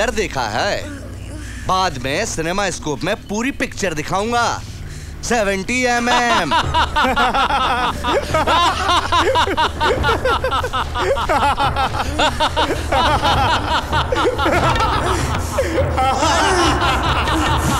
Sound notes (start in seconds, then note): 5.8 laughs